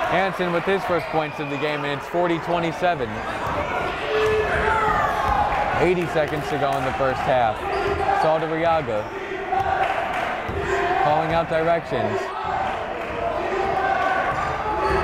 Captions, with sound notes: Hansen with his first points of the game, and it's 40, 27. (yelling) 80 seconds to go in the first half, Saldarriaga. (chanting) (clapping) Calling out directions.